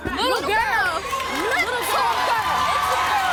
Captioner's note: cheering